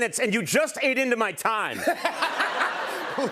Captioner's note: laughs